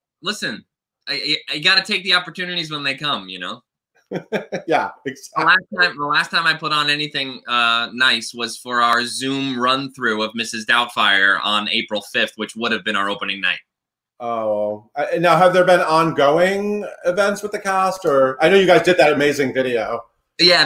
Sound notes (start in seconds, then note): 4.1 giggles